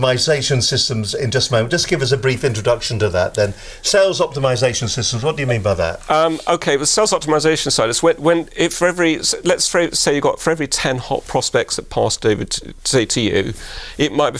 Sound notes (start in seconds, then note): 7.1 stammering